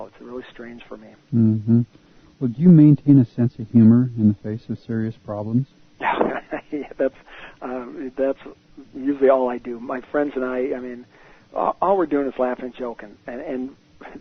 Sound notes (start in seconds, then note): 6.0 laughter